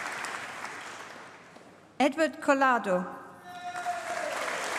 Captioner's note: applause; applause